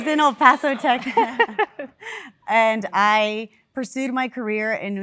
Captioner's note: laugh